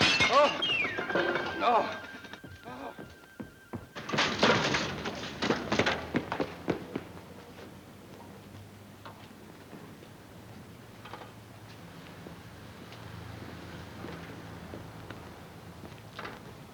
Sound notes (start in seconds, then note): 0.0 glass shattering; 2.3 gentle music; 5.9 footsteps plodding